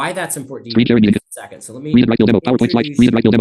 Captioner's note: screen reader narrating extremely rapidly